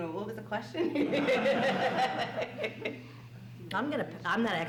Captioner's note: laughs